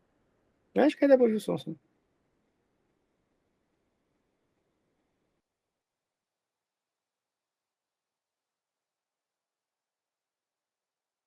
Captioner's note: silent excerpt